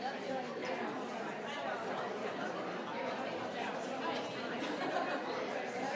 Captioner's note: crowd talking continues